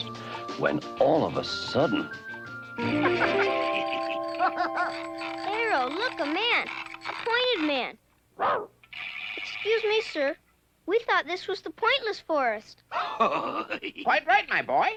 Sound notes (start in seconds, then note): 2.8 laughing; 3.3 rattling; 8.4 Arrow barks; 13.0 laughs